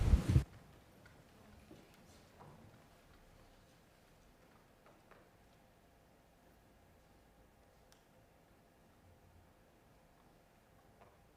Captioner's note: moment of silence